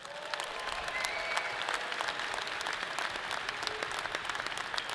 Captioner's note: audience clapping